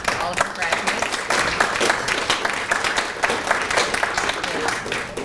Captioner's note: applause